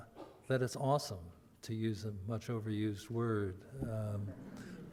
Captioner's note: audience laughter